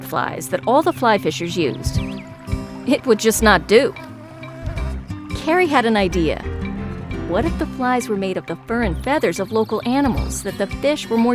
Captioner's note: insect buzzing